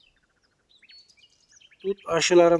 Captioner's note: bird sounds